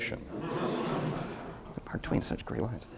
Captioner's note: audience laughter